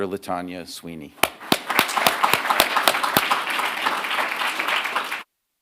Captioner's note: audience clapping